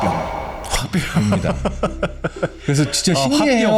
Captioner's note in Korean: 웃음